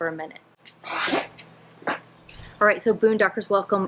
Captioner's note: chair scraping